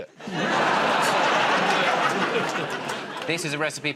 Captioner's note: laughter